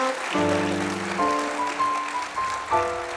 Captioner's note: applause